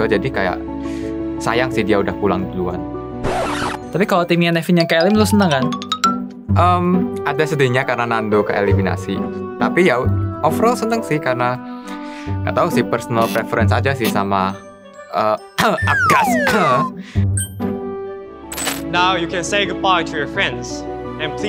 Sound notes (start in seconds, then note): 15.7 cough